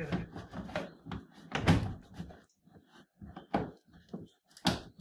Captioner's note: plastic snapping